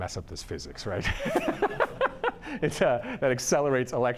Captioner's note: laughs